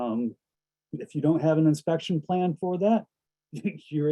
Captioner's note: chuckles